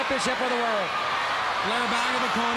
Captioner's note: crowd cheering